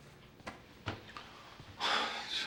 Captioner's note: sighs